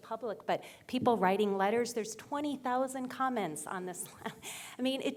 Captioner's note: laugh